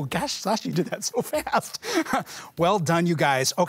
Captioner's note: laughs